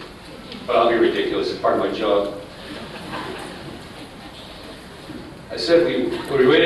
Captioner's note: laughter